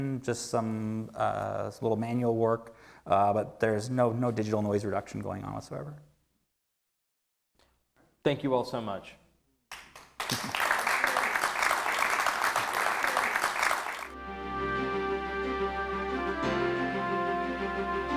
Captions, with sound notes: just some little manual work, but there's no digital noise reduction going on whatsoever. - Thank you all so much. (loud applause) (upbeat instrumental music)